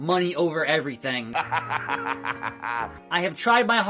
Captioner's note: laugh